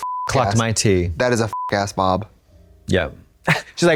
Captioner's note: beep